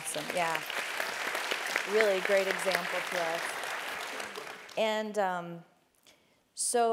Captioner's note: applause